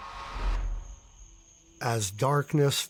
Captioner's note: air whooshing; crickets chirping